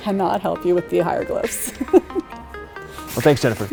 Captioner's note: chuckles